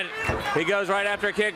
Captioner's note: crowd cheering